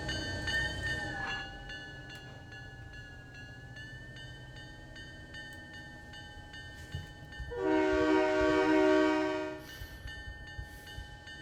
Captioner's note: train whistle